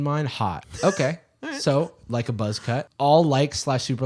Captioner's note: laughing